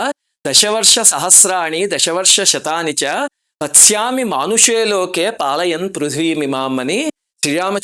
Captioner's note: reciting verse